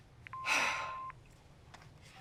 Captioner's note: Voicemail Beeps, Elli sighs